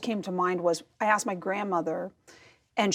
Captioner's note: none